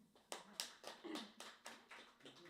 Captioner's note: applause